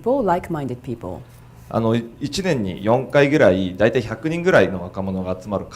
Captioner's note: speaking foreign language